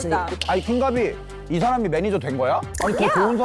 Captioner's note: sudden curiosity sound effect